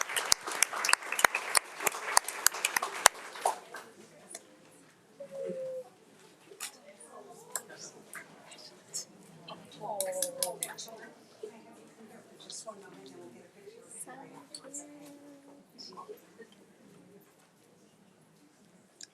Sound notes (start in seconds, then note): 6.5 camera click; 9.4 audience applauding